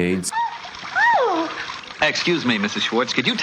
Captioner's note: water splashing